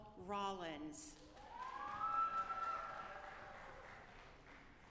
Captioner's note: audience applauding